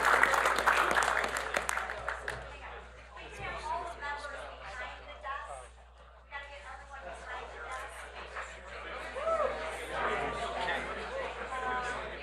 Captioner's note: applause